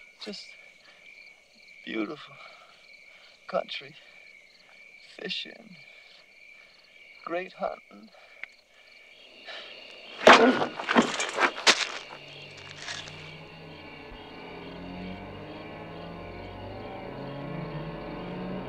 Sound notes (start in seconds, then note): 10.0 body thudding; 13.3 dramatic music